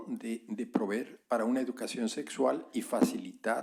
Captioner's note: spanish